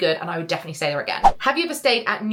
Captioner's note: screen fwipping